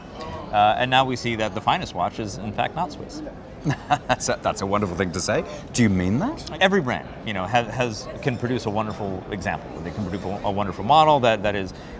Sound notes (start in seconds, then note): 3.6 laughs